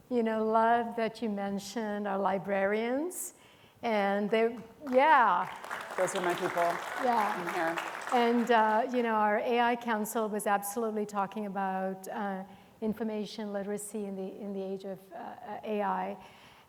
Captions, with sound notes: You know, love that you mentioned are librarians and they, yeah. (audience clapping) - Those are my people. - Yeah, and you know, our AI council was absolutely talking about information literacy in the age of AI.